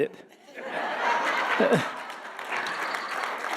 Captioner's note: audience laughing; audience applauding